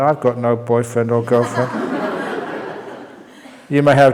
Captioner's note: laughter